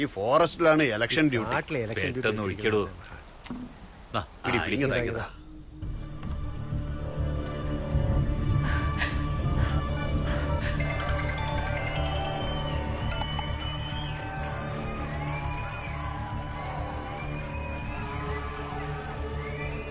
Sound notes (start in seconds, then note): 10.8 Cell phone rings; 15.7 orchestra... continues